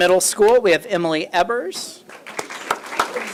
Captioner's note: applause